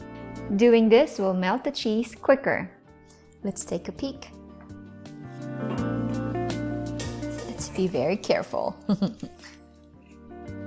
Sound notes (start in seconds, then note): 6.9 bowl thuds; 8.8 chuckling